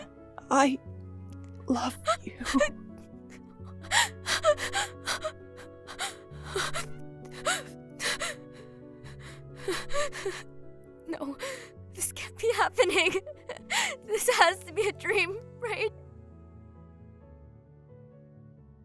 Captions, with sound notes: I love you. (Heavy breathing) No. This can’t be happening- This has to be a dream… Right?